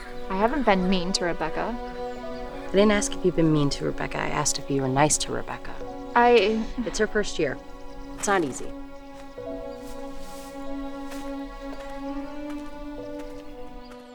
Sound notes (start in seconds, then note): 5.9 Riley stammering